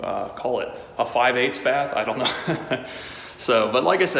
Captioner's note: laughs